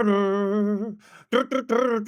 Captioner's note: humming